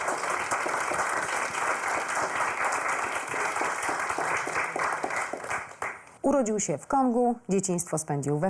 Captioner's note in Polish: Aplauz